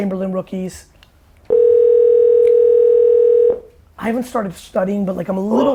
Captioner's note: phone rings